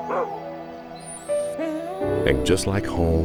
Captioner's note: dog barks and whines